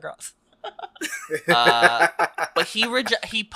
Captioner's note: laughs